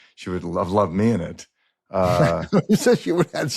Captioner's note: laughs